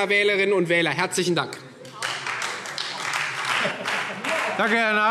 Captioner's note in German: Beifall Freie Demokraten